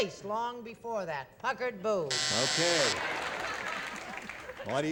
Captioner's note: buzzer